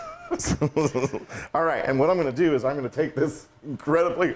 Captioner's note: laugh